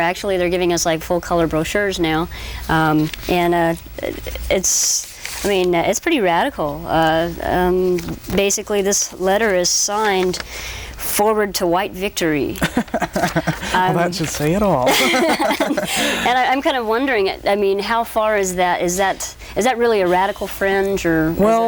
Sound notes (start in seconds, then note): 12.6 laughs; 14.7 both laugh